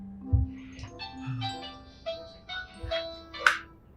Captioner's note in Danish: telefon ringer